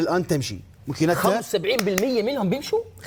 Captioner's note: claps